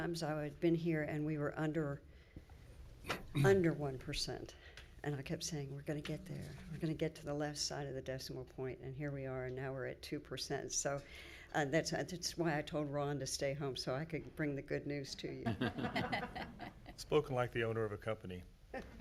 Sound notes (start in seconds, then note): 15.5 laughing